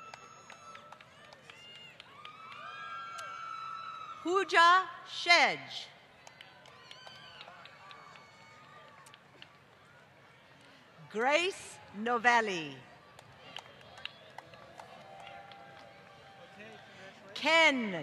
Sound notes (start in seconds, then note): 2.7 applause; 12.8 applause